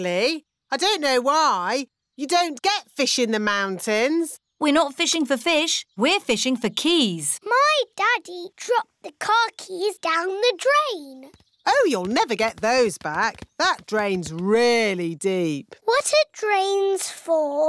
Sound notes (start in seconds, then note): none